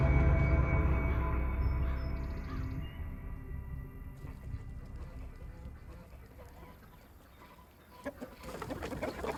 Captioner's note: birds chirping; chickens clucking